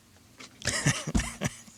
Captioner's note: laughs